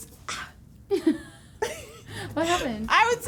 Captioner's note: both laughing